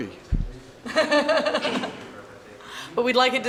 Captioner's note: laughs